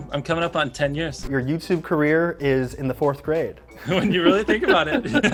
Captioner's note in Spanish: risas